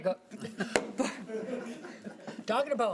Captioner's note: laughing